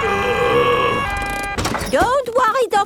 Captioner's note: groaning